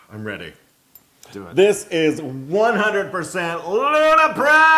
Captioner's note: laugh